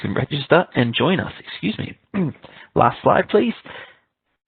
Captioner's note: clears throat